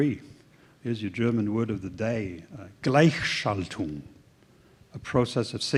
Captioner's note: german